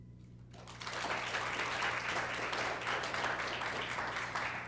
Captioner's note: applause